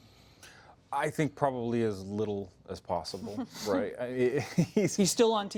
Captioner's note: laughter